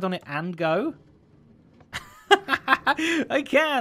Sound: laughing

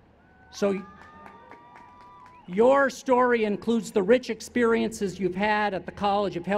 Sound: cheers

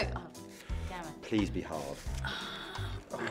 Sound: milly sighs

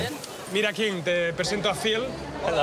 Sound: speaking Spanish

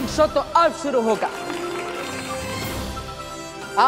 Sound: applauding

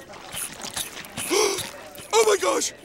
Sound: gasping

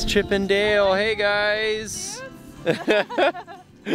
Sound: mumbling; laughing

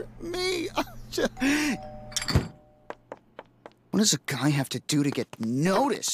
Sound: doorbell rings

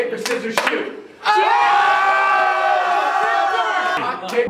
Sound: yells

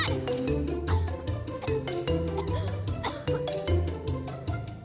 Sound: coughing

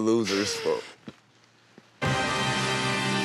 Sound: giggles; dramatic music

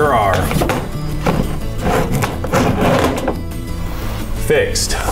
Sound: boards sliding

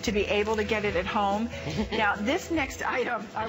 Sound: laughter

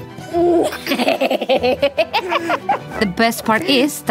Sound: laughing

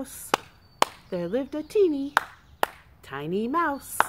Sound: clap clap; clap clap

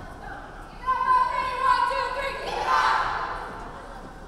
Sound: players chanting

